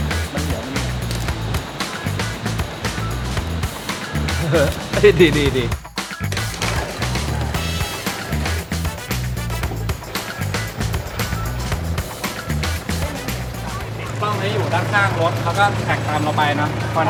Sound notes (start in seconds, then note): 4.6 laughs